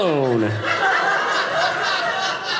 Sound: audience laughing

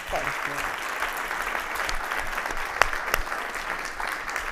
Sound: audience applauding

